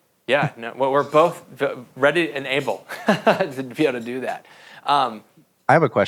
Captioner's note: laughs